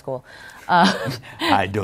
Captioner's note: chuckles